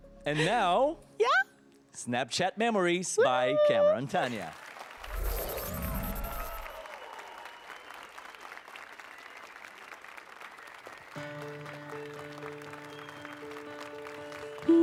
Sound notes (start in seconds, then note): 4.1 applause and cheers